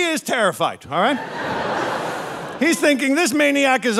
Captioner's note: audience laughing